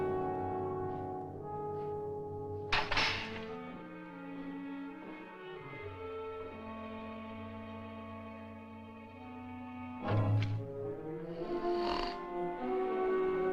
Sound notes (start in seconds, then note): 11.1 snores